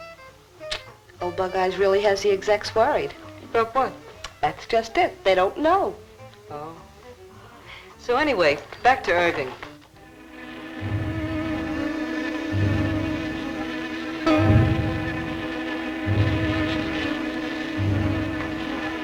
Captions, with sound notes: Old bug eyes really has the execs worried. - About what? - That's just it, they don't know. - Oh. So anyway, back to Irving. (buzzing) (suspenseful music)